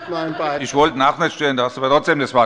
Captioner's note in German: Heiterkeit der Abg